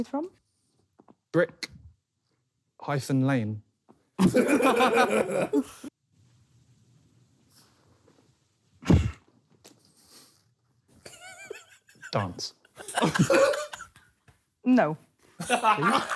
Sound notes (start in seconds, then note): 4.2 laughing